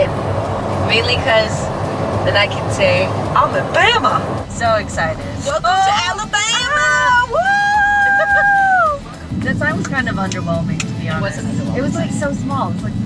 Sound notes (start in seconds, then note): 0.0 clapping; 6.6 both cheering